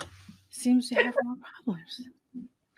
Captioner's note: laughing